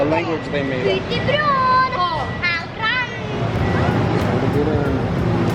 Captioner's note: speaking in gibberish